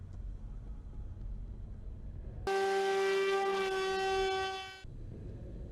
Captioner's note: loud drone sound